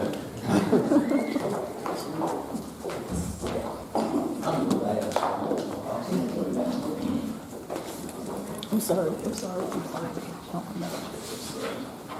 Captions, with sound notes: (attendees chattering) I'm sorry, I'm sorry.